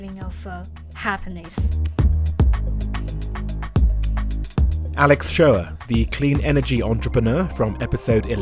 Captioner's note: voiceover